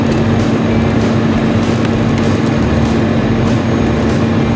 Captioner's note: upbeat country music; vehicle creaking